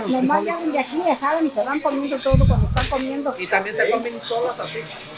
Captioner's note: shopper speaking Spanish